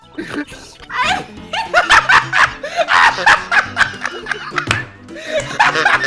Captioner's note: laughter; wheezing laughter